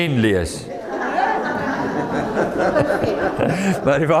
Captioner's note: audience laughing